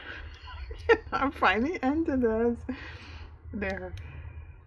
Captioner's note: laughs